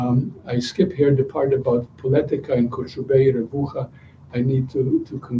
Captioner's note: non-english speech